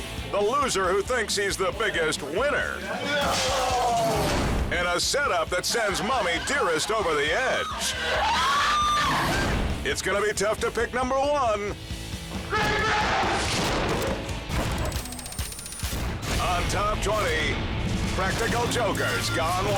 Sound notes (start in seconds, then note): 3.2 glass shatters; 7.2 mom screaming; 12.5 man yells; 13.6 person thuds